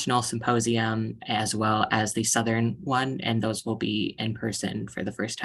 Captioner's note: speaking Spanish